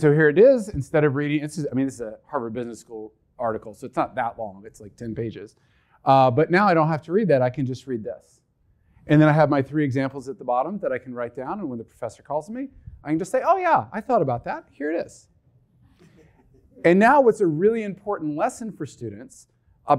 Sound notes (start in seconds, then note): 16.1 audience laughing